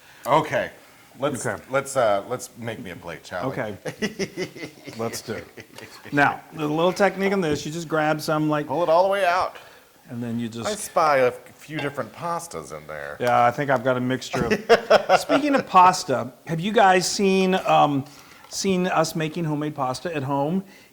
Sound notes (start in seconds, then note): 3.8 laugh; 14.3 laugh